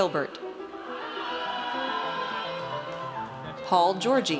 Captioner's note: audience cheers